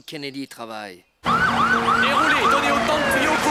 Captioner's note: sharp sirens; indistinctly screaming